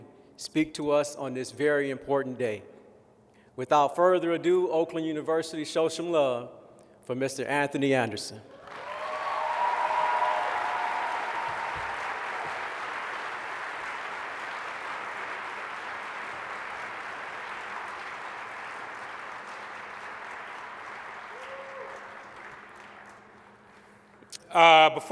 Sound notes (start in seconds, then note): 8.5 applause